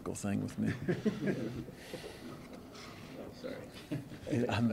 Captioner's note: laughter